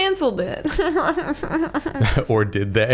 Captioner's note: snarky laugh